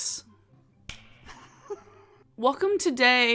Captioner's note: claps